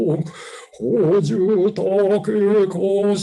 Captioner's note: chanting